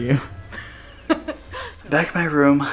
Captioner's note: laughter